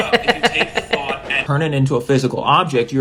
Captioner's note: chuckles